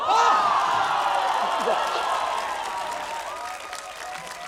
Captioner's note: cheering, applause